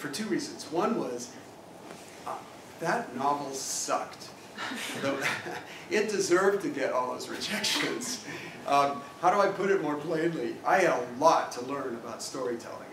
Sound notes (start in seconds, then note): 4.6 laugh